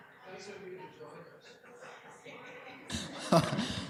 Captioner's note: laughing